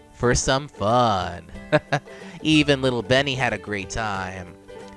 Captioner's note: laughs